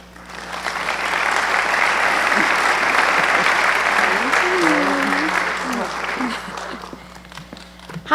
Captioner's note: applause